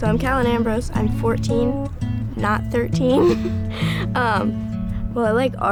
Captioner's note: chuckles